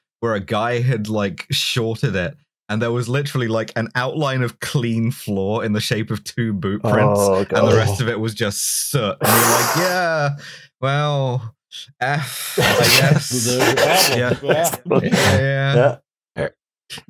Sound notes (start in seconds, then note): 10.4 sucks in breath; 12.5 laughter